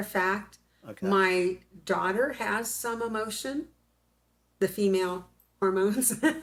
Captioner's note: laughs